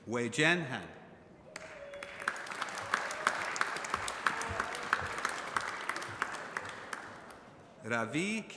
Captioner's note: applause